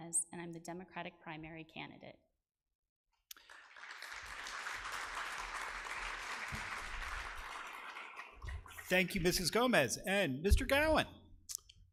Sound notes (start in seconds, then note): 3.3 audience applause